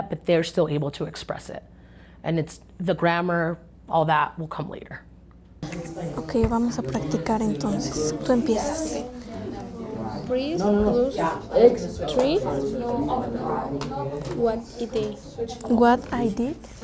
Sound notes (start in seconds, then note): 6.3 speaking in Spanish